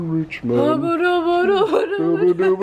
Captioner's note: vocalizing